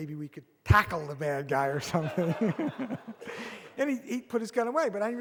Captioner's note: audience laughs